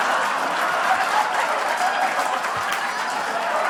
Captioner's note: laughter/Applause